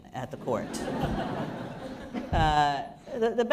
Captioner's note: laughter